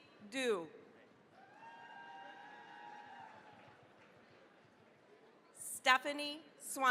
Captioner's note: cheering, applause